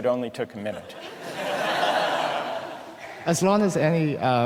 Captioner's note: laughter